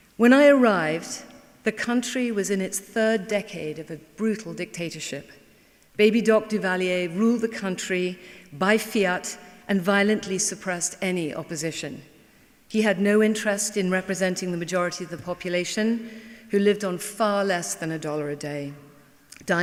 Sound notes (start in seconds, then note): none